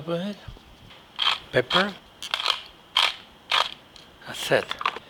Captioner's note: pepper mill cranking